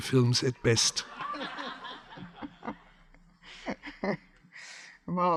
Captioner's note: audience laughs